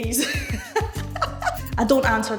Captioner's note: laughing